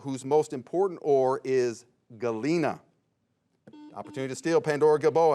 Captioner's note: bell chimes